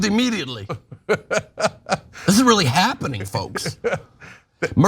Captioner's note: laugh